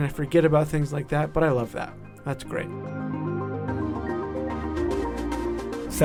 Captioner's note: voiceover